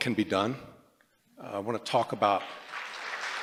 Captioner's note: applause